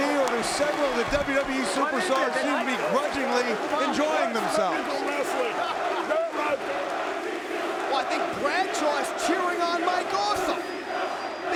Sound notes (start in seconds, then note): 7.8 crowd chanting